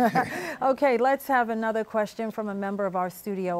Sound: laughs

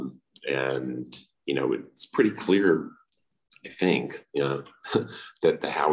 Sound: laughs

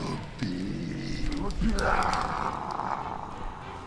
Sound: incantations

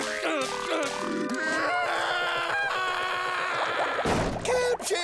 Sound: screaming

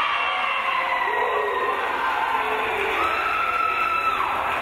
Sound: crowd cheering

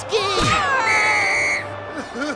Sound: whistle; crying

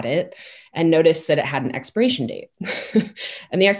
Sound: chuckles

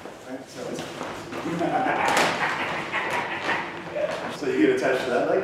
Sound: laughter

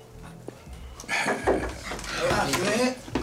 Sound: knock on door

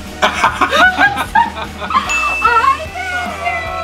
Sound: laughing

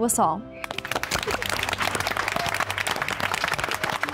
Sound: women clapping

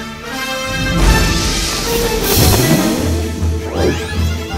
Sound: hitting wall, Landing on floor

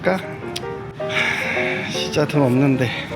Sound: sigh

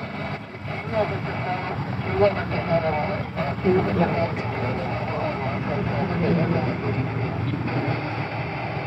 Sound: radio Chatter

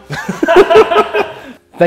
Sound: both laughing

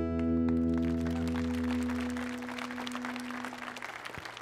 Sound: audience applauding

